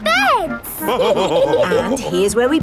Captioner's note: all laughing